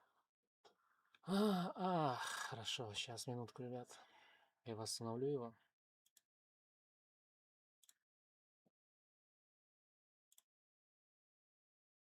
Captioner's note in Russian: вздыхает